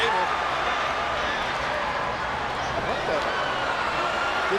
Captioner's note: audience chattering